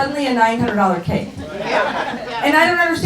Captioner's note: laughing